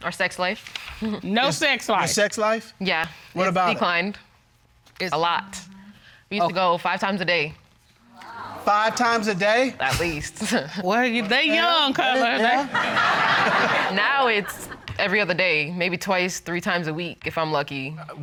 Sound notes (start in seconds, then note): 0.8 chuckles; 10.5 laughs; 11.9 audience laughing